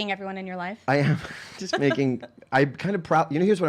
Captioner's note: laughing